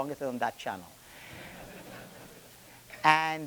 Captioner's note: attendees laughing